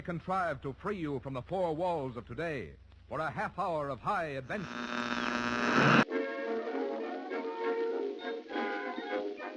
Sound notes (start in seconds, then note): 4.4 old radio tuning; 6.0 jaunty music